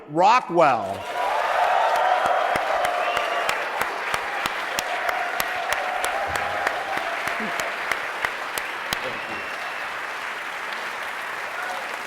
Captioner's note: applause